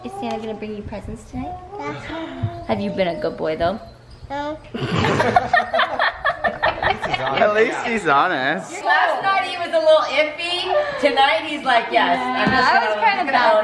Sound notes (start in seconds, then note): 4.7 all laughing